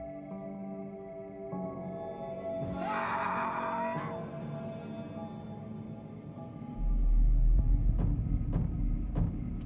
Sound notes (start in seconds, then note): 2.7 man screaming; 7.0 pounding